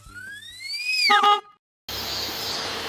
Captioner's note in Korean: 전동휠체어 소리; 경적 소리